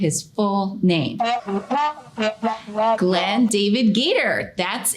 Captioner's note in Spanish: El Sr. Gator hablando galimatías